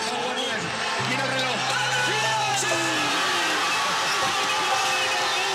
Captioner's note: applause